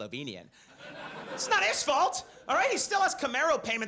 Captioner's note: audience laughs